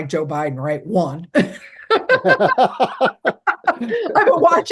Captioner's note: laughing